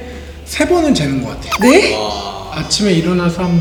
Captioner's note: astonished